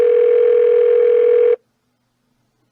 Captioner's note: phone still ringing